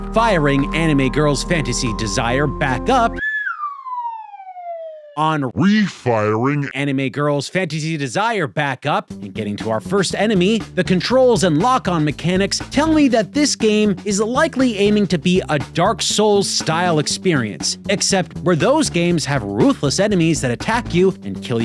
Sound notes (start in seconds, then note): 3.1 whistles